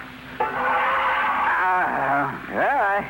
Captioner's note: tires screeching